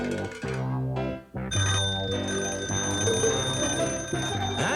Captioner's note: ring